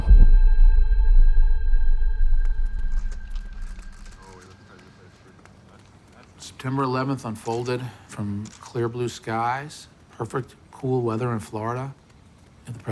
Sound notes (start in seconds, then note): 0.0 siren blares in distance; 4.6 cameras clicking, people talking in background